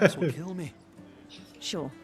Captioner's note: laughing